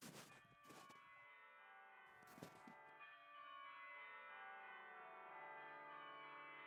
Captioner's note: new church bells ringing